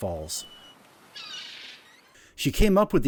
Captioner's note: swings creaking, seagulls overhead